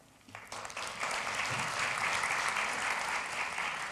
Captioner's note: audience applause